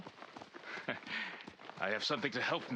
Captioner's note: laugh